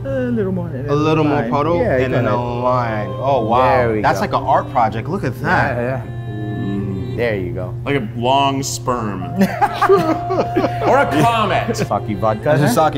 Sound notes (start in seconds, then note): 9.3 laughs